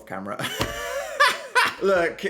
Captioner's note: laughs